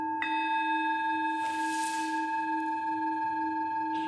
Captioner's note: sound of a bell struck